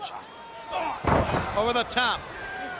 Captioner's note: wrestlers thud